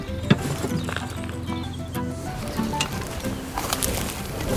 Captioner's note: コンポストを注ぐ音